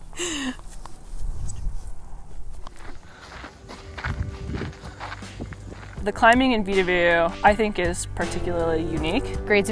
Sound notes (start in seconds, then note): 3.2 footsteps shuffling